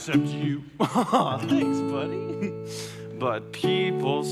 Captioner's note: chuckles